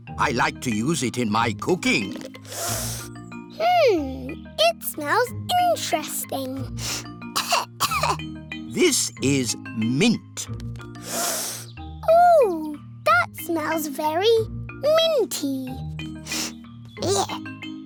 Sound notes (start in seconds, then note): 2.4 sniffs; 7.3 sniffs and coughs; 11.0 sniffs; 16.2 sniffs